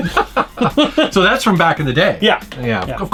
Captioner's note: laughing